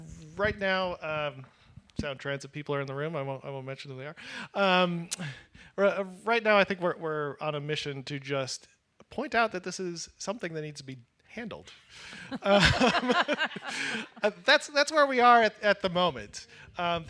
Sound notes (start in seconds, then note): 12.0 laughs